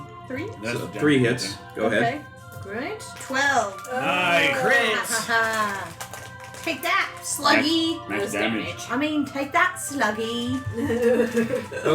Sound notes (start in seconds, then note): 7.4 American accent